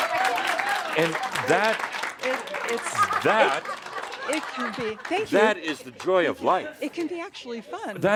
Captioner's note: much audience applause